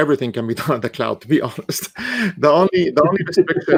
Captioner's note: chuckling